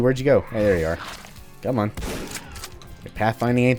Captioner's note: BOOM, shick-shick